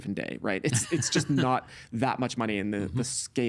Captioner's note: chuckling